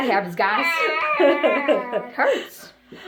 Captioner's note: pained chicken sounds